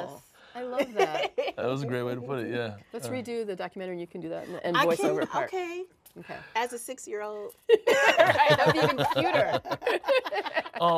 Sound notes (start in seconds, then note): 7.9 laughs